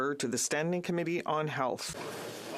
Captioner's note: speaking French